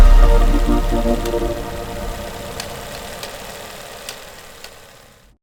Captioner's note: uplifting instrumental music; video transition thuds; uplifting instrumental music; audio whirs